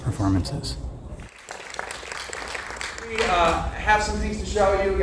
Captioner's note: applause